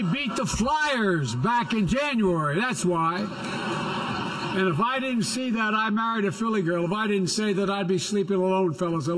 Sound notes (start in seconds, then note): 3.0 laughter